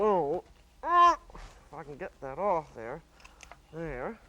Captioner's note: groans